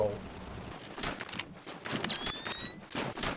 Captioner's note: boxes glitch splashing